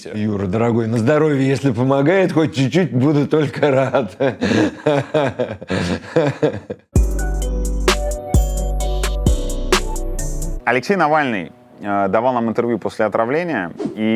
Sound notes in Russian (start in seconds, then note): 3.5 Смеётся; 7.0 Музыкальная заставка